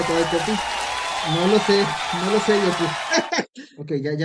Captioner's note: laughs